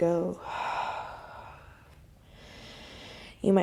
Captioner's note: deep breath